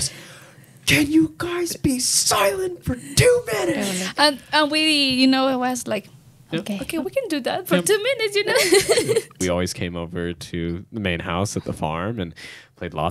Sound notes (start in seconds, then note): 8.4 laughs